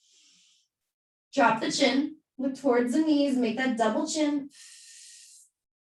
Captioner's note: exhaling